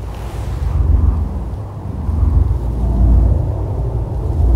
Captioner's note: wind howling